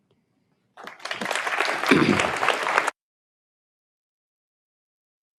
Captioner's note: audience applauds